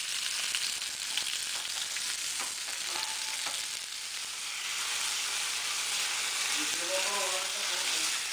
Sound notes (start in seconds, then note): 2.6 sizzling